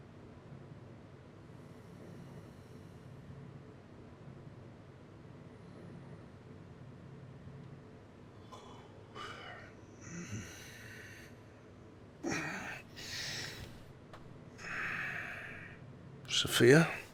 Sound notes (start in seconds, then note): 8.3 Jamie yawns